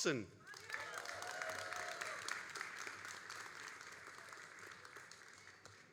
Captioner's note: all applauding and cheering